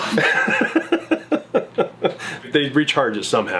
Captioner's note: laughing